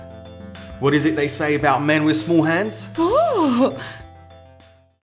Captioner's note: woman shocked sound